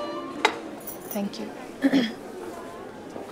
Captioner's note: Clear throat